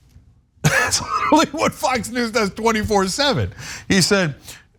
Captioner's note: laugh